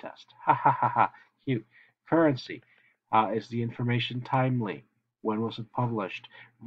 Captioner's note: laughs